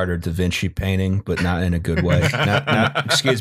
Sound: laughter

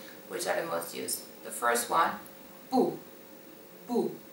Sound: boo

